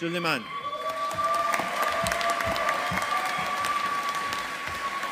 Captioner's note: audience applauding